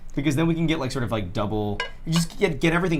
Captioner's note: none